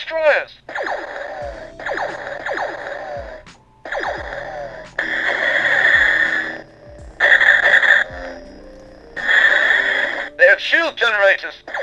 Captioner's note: Blasters firing sound & lightsabers sounds